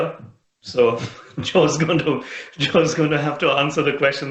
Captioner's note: laughs